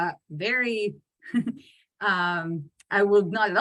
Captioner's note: chuckles